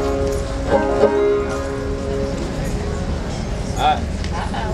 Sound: crowd chattering

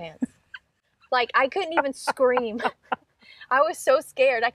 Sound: laughing

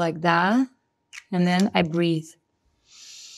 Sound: inhales

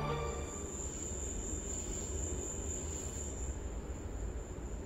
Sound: crickets chirping

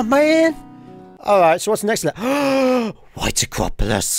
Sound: gasp

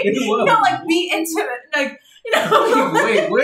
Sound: laughs

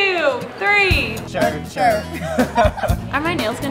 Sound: laughter

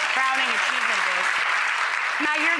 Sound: audience applauding

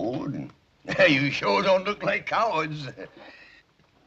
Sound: laughs

